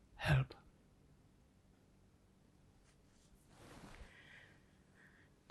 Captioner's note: pauses 4 seconds